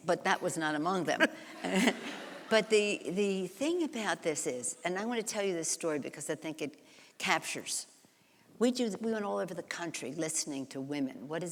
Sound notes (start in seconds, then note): 1.4 laughs